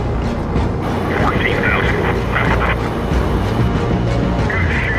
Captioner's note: people chattering on radio